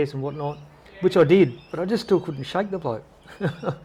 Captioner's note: laughter